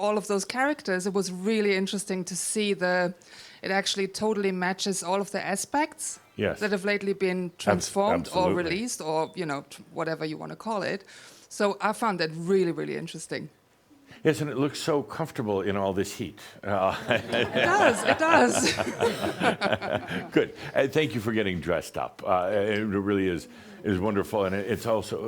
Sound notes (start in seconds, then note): 16.7 Adamus chuckles; 19.7 she chuckles